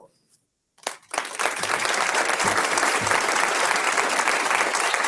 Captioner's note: audience applauds